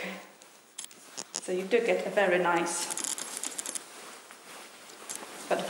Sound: cloth rustling

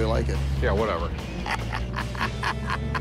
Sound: laughs

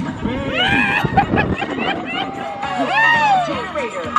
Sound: screams

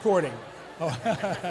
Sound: laughs

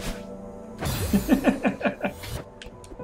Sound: chuckles

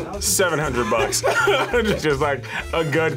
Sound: laughs

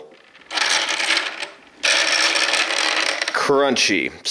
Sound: crunching sound

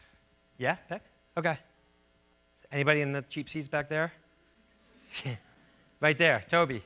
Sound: laughs

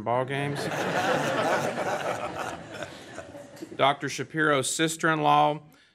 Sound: laughter

